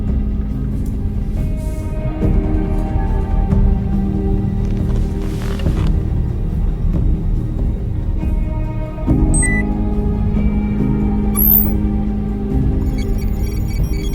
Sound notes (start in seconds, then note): 9.3 system beeping